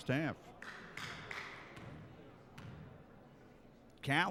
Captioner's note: clapping